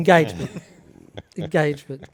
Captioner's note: laughs